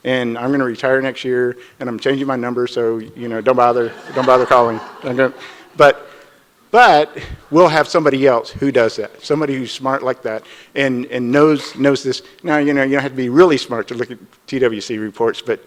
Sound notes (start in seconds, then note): 3.8 audience laughs